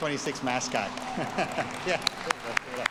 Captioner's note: audience applauds